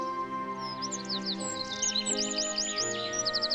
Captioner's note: birds chirping